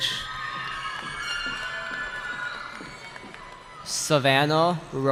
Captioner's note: cheering